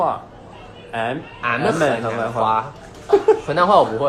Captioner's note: makes random noises in the approx. tones of Henan dialect